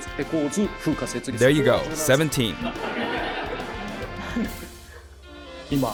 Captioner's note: laughter